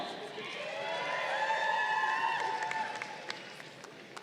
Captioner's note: crowd cheering